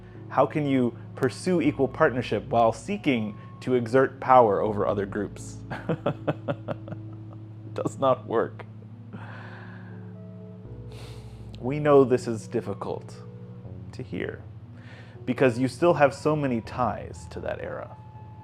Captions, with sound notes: How can you pursue equal partnership while seeking to exert power over other groups? (laughs) It does not work. We know this is difficult to hear because you still have so many ties to that era.